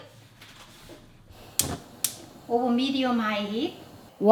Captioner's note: gas turns on